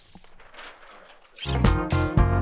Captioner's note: paper rustling; upbeat music